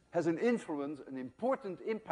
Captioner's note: none